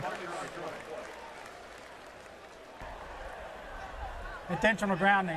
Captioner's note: pa announcement